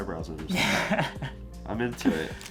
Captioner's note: laughs